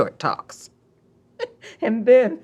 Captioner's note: laughs